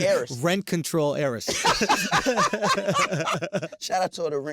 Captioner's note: laughing